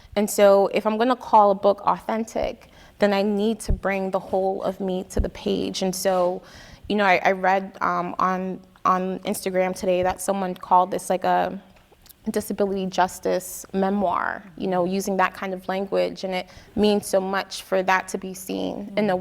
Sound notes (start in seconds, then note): none